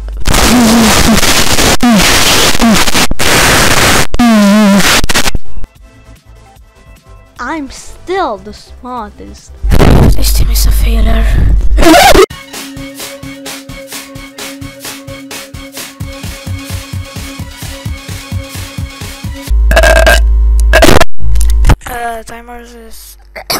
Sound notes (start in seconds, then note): 19.6 burps; 23.2 covid cough